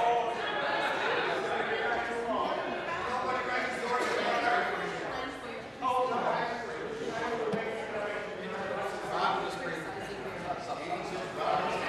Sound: conversation din

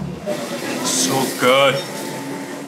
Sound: car engine roars

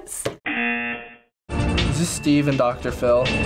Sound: buzzer rings

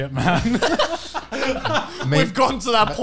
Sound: laughing loudly

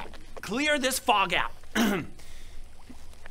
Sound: ahem

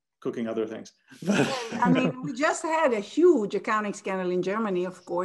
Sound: laugh

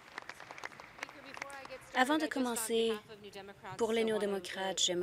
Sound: applause

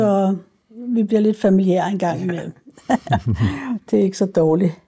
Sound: laughs

